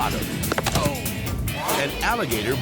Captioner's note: body thudding; surfer groaning